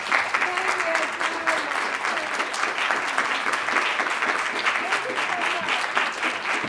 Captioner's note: speaking off microphone